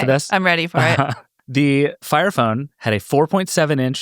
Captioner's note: panelists laugh